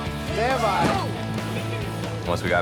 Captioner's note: heavy thudding